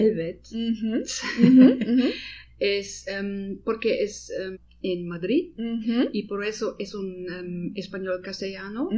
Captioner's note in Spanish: Risas